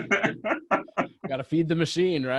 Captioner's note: laughs